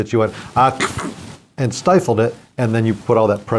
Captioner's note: fake sneezing